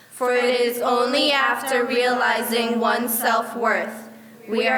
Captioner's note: none